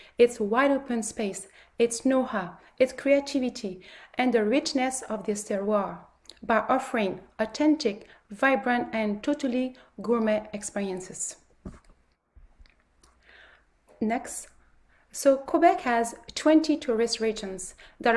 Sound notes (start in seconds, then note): 5.5 speaks French; 11.6 shuffling